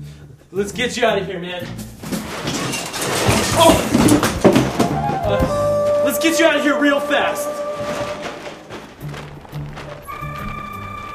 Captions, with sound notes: Let's get you out of here, man. (loud clatter) Oh! Let's get you out of here real fast.